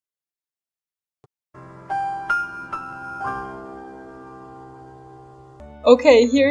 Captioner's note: the more you know sound